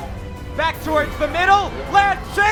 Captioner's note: voiceover